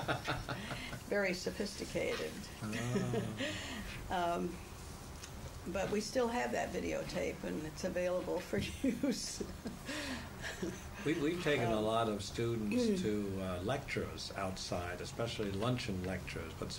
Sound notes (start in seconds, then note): 0.0 laughter; 2.6 laughs; 10.4 laughs